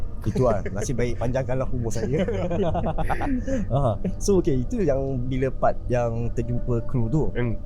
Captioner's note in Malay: ketawa